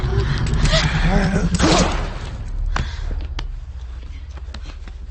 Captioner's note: gun shot fires; uneasy music